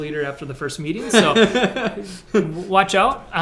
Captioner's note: laughs